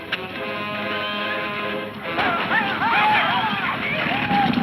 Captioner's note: men shouting